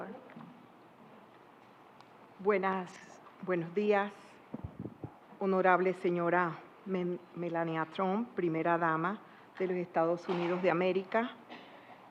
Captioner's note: speaking Spanish